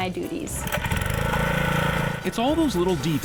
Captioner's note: engine whirs